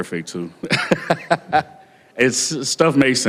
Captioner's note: laughter